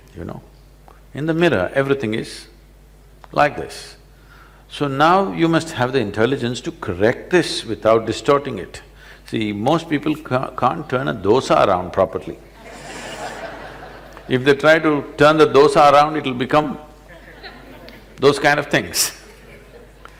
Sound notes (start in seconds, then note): 12.5 laughter